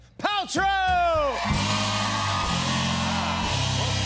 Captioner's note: cheers and applause